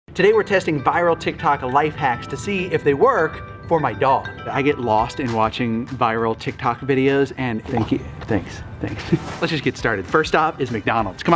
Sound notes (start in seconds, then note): 7.6 dog licking